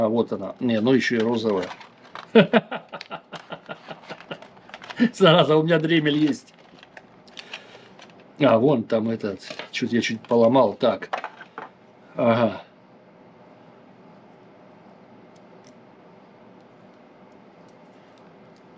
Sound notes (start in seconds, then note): 2.3 laugh